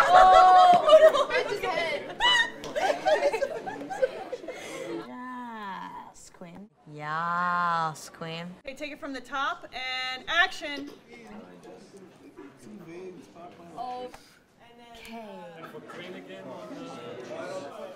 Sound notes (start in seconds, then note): 0.0 exclaims; 3.0 laughing